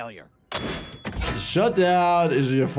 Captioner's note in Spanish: alarma a todo volumen